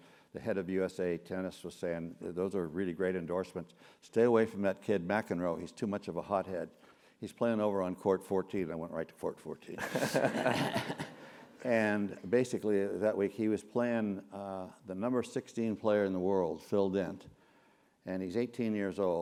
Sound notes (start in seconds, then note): 9.8 laugh